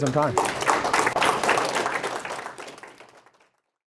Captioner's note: applause